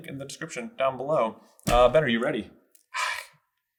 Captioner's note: sigh